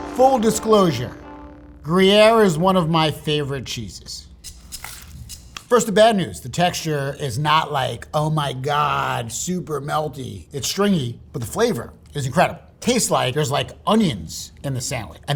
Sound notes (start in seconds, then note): 4.4 percussion rattling; 4.5 sandwich rustling